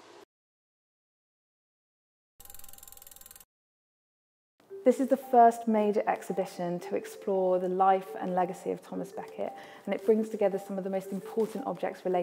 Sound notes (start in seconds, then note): 2.4 film rolling